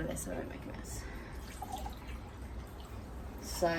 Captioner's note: water burbles back into measuring jug